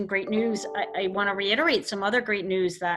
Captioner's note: chiming sound